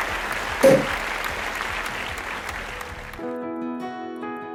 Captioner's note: champagne bottle pops; cheerful music